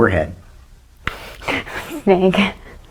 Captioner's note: laughs